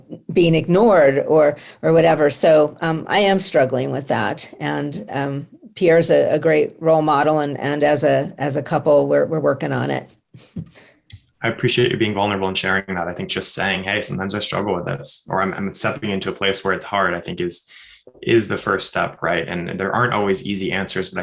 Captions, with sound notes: being ignored or whatever. So I am struggling with that and Pierre's a great role model and as a couple we're working on it (chuckles). - I appreciate you being vulnerable and sharing that, I think just saying, "Hey, sometimes I struggle with this, or I'm stepping into a place where it's hard, I think is the first step and there aren't always easy answers,